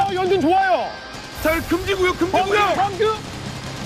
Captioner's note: sand storming